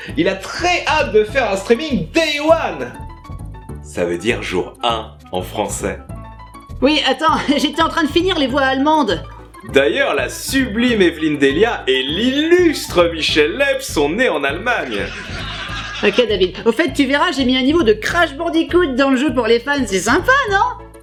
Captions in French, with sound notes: Il a très hâte de faire un streaming "Day One" ! Ça veut dire "Jour Un" en français. - Oui attends, j'étais en train de finir les voix allemandes ! - D'ailleurs la sublime Évelyne Dhéliat et l'illustre Michel Leeb sont nés en Allemagne ! [Rires de Sitcom] - OK David ... Au fait, tu verras, j'ai mis un niveau de "Crash Bandicoot" dans l'jeu pour les fans, c'est sympa, non ?